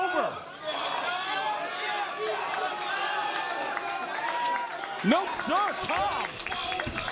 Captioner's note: applause